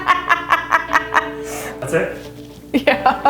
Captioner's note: laughing